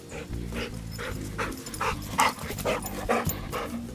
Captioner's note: dog pants